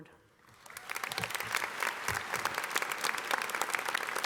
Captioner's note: audience applauding